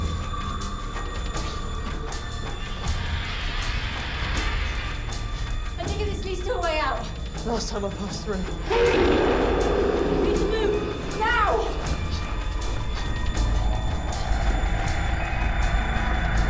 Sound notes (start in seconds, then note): 11.1 Clem chanting, indistinct